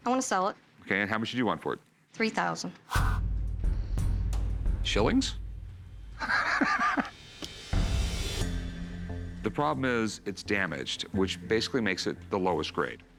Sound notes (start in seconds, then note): 6.2 laughs